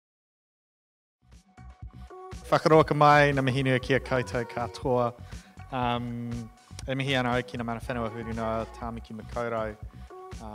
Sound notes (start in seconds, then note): 1.5 upbeat music; 2.7 speaking in foreign language